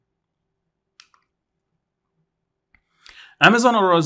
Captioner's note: remote clicking